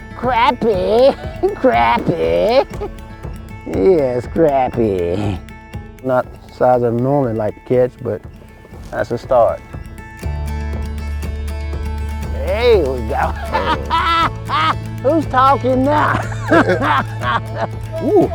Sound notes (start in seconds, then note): 10.3 upbeat country music; 12.4 man laughing; 16.8 men laughing